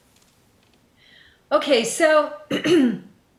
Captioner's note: clears throat